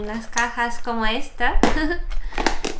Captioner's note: giggle